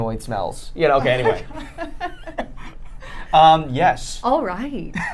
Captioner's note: laughing; laughing